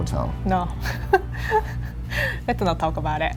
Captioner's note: laughing